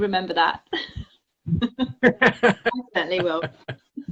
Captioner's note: both laugh